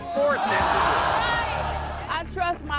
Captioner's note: audience booing